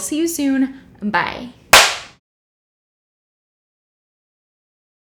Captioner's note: smacking